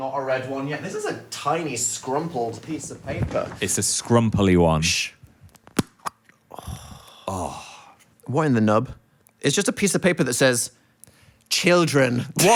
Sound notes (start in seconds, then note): 6.0 capsule pops; 6.5 both sigh